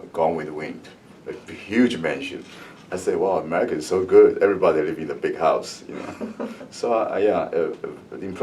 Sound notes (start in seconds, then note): 1.7 laughs; 5.9 laugh